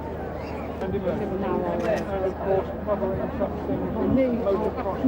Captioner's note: faint chattering